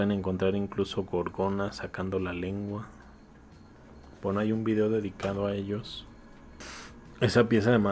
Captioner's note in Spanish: resoplido